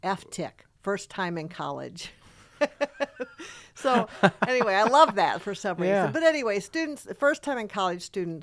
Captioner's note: laughing